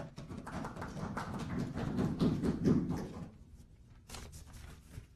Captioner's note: applause